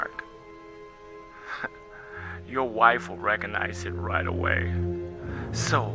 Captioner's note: chuckles